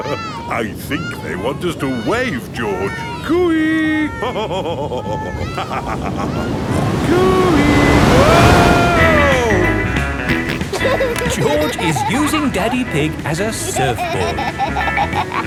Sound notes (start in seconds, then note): 4.7 laughs; 10.2 snorts and laughs